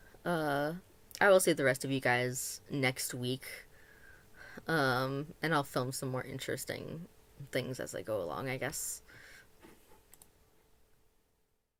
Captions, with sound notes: Uh, I will see the rest of you guys next week. Uhm, and I'll film some more interesting things as I go along I guess. [soft click]